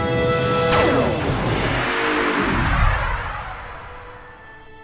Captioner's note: ship blasting off